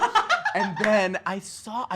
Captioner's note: laughs